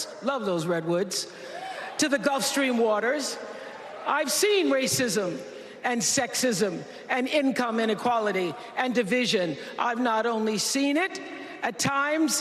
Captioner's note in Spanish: Vitores